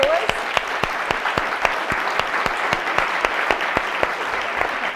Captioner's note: audience applause